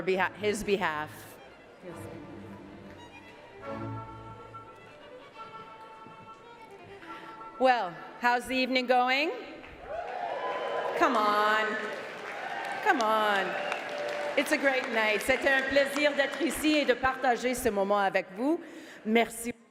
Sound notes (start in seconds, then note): 14.4 cheering and Applause